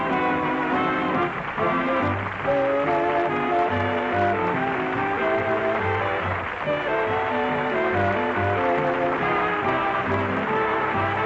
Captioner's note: applause